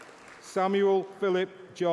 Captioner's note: applause